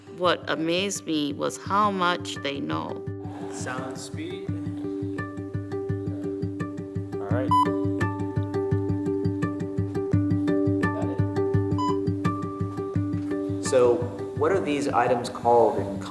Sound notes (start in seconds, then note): 7.6 machine beeps